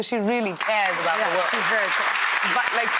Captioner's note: audience applauds